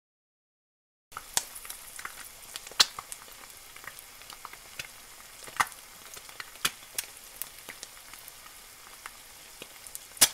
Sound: sound of frying

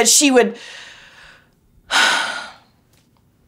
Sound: takes a deep breath

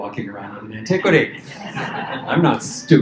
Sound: laughter

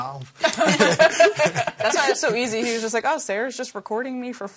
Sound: laughter

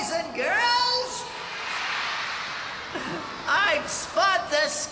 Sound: cheering

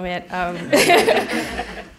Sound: laughter

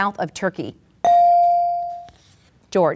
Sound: ding

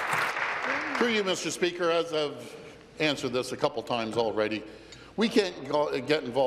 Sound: applause

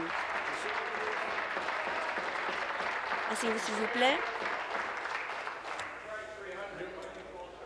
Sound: applause

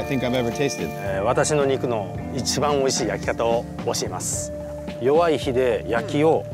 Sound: speaking in Japanese

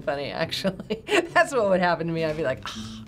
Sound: laughs

